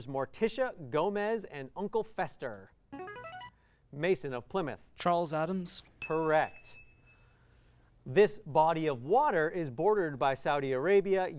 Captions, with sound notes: and Uncle Fester. [musical scale] Mason of Plymouth. Charles Addams. Correct. [ding] This body of water is bordered by Saudi Arabia, Yemen, Egypt,